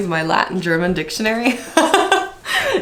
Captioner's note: laughs